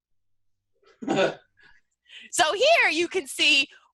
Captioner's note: laughs